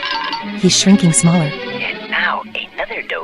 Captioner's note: whispering